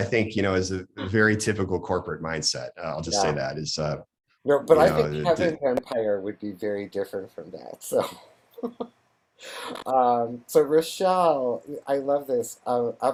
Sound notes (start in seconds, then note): 8.8 laughs